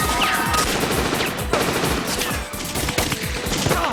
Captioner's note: gunfire